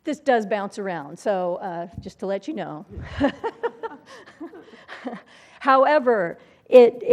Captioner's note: laugh